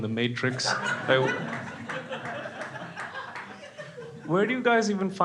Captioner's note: crowd laughing